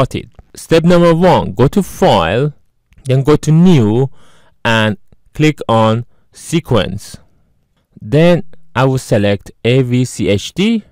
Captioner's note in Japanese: クリック